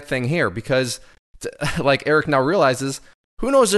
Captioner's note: chuckles